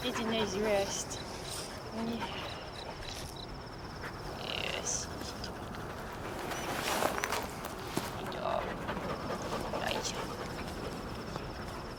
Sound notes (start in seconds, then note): 1.8 dog panting; 2.9 crickets chirping; 9.3 dog panting